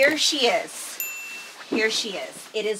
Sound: bell chiming

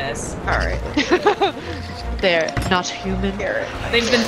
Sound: laugh

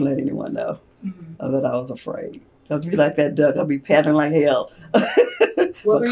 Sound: laughter

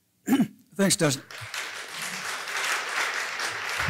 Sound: applause

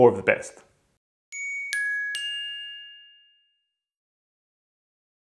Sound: light bell ringing

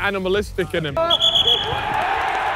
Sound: crowd cheers; whistle blows

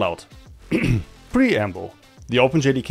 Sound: clears throat

